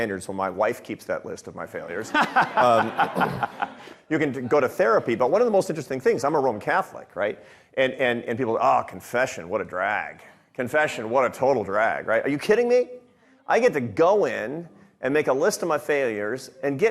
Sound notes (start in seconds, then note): 2.1 audience laughing